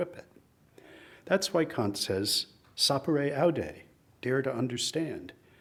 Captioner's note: speaks in foreign language